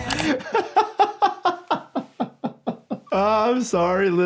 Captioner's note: continues laughing